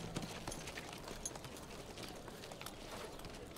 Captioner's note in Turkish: Nal sesleri